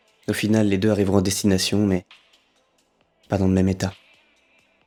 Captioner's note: none